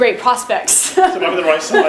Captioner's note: laughing